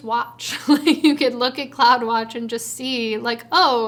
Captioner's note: chuckles